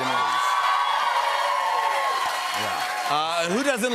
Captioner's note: cheers and applause